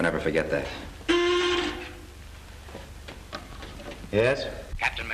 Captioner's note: intercom buzzes